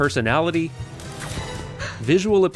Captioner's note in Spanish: suspiro